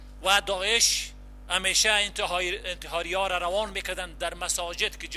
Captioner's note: translator speaking in foreign language